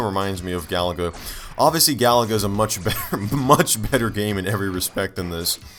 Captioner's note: chuckle